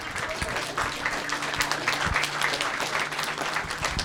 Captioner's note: applause